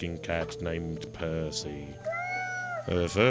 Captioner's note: cat meowing